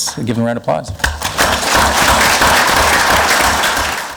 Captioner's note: clapping